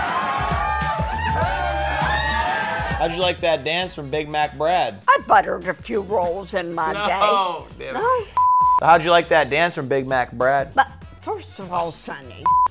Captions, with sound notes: How'd you like that dance for Big Mac Bread? - I've buttered a few rolls in my day. - No! - No? (screen beeping) - How'd you like that dance from Big Mac Bread? - First of all, sonny.